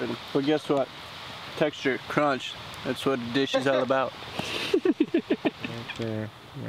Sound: laughter

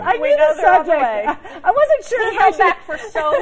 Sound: laughter

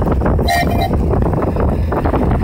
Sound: toot toot

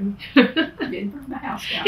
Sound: laughs

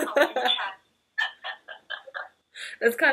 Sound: laughing

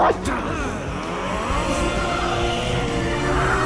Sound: barks; all growling

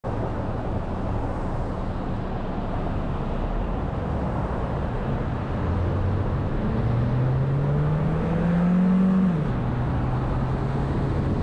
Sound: road Noise

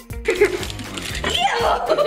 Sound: giggling

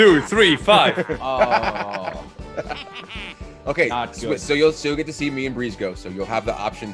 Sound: laugh

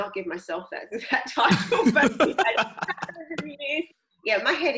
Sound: laughing

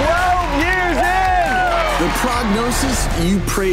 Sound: crowd cheering

